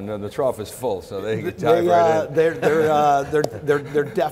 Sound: all laughing

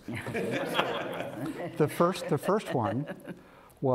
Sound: laughter

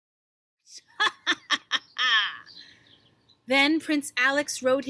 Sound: evil laughter

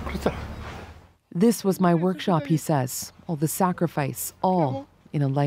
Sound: speaking alternate language

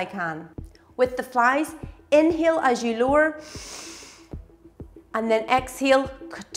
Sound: inhaling

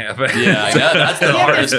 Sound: laughing

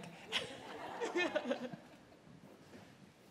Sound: laughter

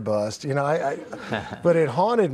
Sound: laughing

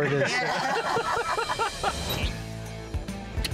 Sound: laughter

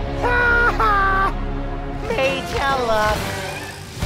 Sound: maniacal laughing

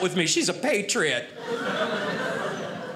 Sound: audience laughing

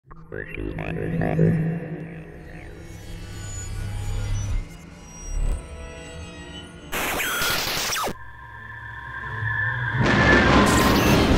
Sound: sound Effects

